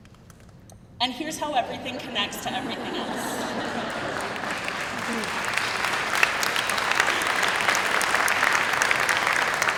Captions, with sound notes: and here's how everything connects to everything else. (crowd applauding)